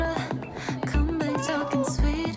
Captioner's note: meow